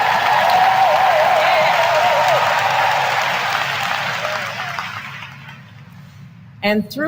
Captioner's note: applause